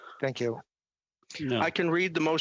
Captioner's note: speaking French